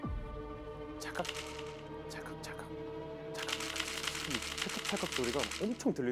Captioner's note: click, click-click, click-click, click